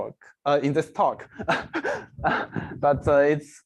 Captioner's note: laughs